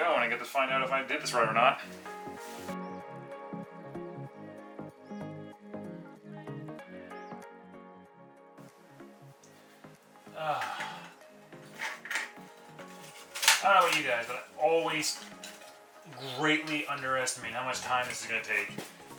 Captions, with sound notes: and I get to find out if I did this right or not. (sighs) I don’t know about you guys, but I always greatly underestimate how much time this is going to take